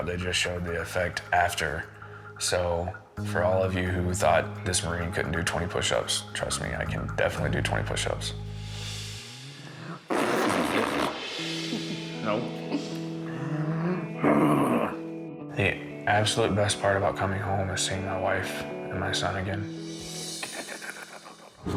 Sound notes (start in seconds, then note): 10.0 blows raspberry